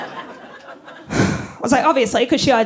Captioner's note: sighs